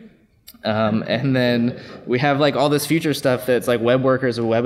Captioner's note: laughs